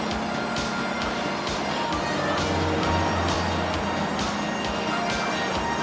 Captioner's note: sirens wailing